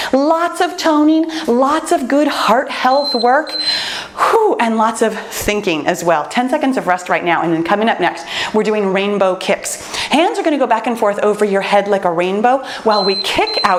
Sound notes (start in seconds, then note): 2.8 timer beeps; 12.9 timer beeps